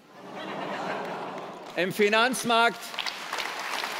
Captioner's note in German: Lachen, Applaus